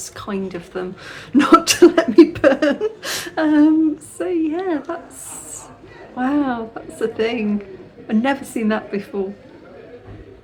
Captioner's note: laughing